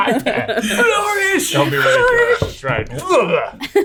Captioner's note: all laughing